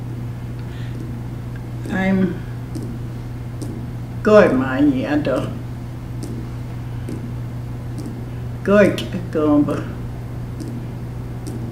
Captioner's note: foreign Language